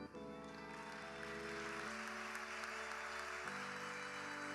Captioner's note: crowd laughing